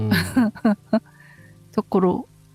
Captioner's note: laughs